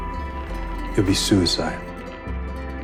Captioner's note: voiceover